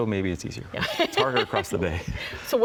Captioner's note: laughs